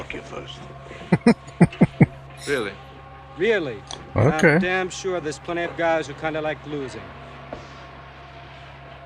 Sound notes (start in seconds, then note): 1.0 chuckling